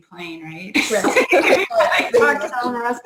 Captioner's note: laughter